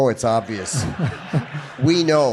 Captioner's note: audience laughing